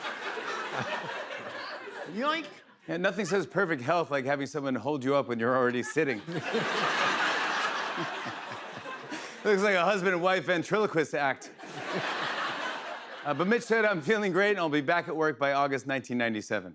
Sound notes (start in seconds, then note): 5.6 laughter; 11.6 laughter